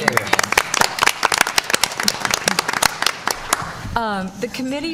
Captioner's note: applause